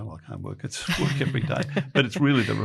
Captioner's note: laughs